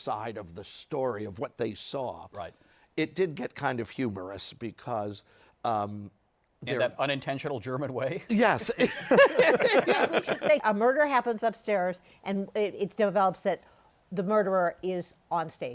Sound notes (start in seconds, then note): 8.6 laughter